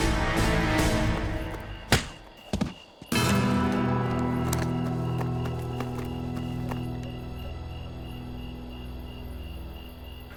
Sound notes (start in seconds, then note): 1.9 punch